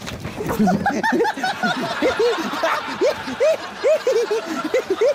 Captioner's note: laughs